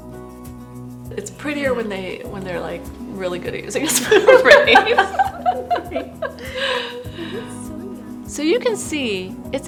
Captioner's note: laughter